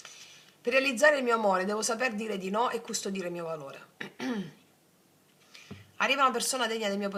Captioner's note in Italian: schiarire la voce